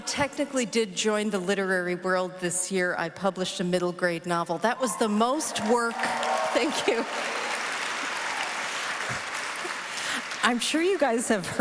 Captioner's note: applause